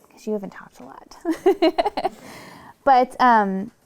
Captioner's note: laughing softly